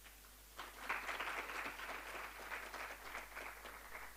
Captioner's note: applause